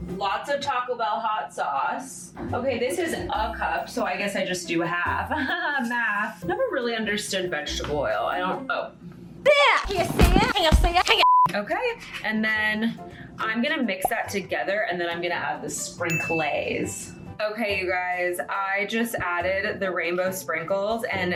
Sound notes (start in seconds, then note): 9.2 annoying yelling; 11.2 beeping